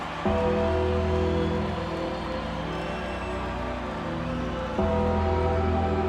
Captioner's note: crowd cheering; bell tolling